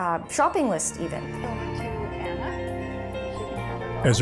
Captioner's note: none